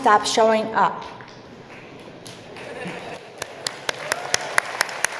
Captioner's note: applause